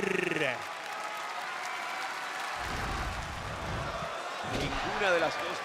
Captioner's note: applause